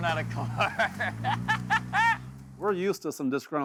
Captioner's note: laughs